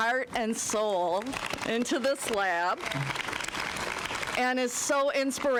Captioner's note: applause